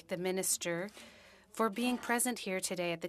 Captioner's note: speaking French